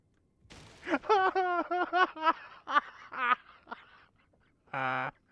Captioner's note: truly unhinged laughter